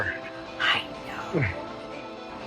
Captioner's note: whispers